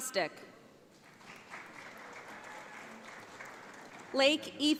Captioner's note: audience applauds